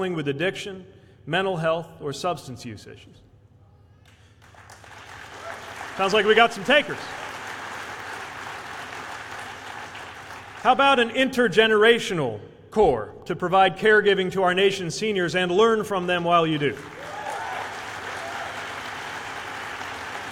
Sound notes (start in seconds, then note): 4.1 applause; 19.4 applause